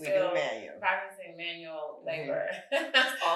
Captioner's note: chuckles